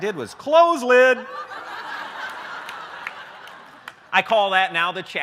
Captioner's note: laughter